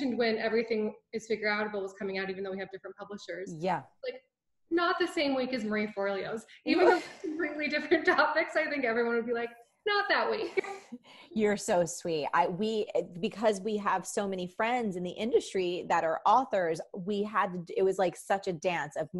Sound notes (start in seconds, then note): 8.5 laughs